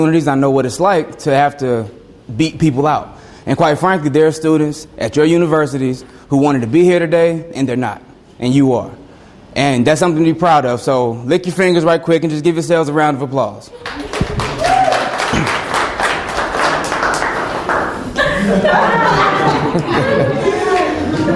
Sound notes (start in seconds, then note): 13.8 students applaud and cheer; 17.5 students laugh